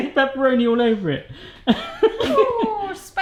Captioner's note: laughing